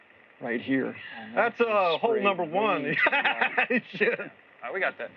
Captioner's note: laughs